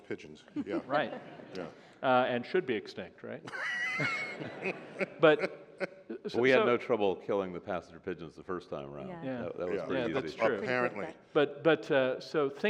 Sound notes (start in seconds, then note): 3.4 laughter